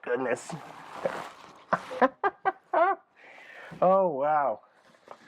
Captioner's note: laughing